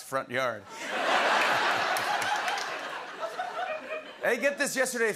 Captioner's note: laughter